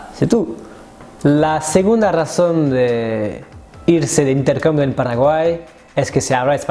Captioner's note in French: en espagnol